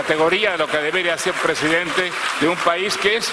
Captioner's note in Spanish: aplausos